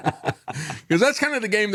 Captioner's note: both Laughing